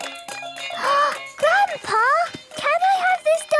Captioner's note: upbeat music; gasps